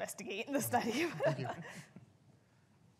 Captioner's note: both laughing